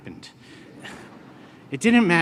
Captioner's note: laughter